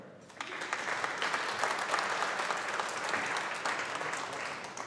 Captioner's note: audience applauding